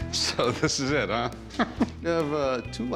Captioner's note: chuckles